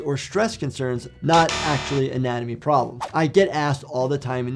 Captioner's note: buzzer buzzes